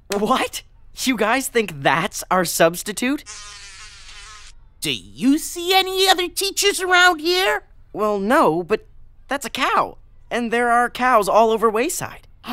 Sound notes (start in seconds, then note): 3.2 buzzing